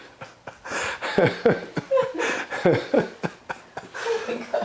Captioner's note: laughing